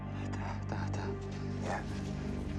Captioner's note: Teplov speaking in foreign language